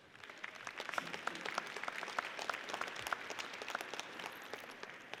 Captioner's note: audience applauds